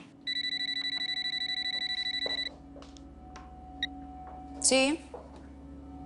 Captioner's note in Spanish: Suena el celular